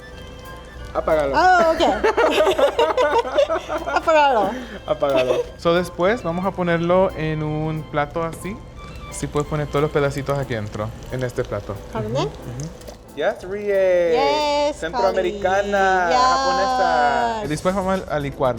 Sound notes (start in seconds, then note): 1.4 laugh; 4.1 speaking Spanish; 12.1 speaking Spanish; 14.9 speaking Spanish